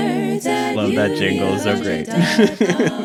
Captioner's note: laughs